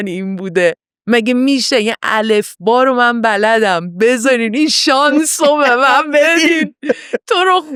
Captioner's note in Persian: خنده